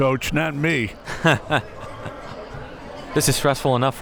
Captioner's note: chuckles; laughs